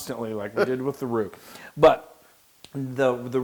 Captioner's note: laugh